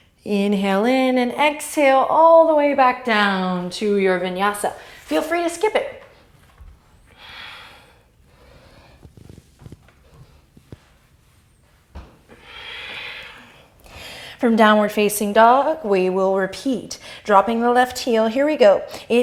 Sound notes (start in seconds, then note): 6.8 deep breathing